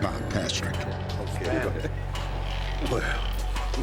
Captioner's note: chatter